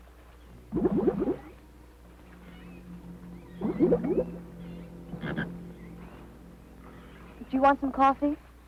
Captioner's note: bubbling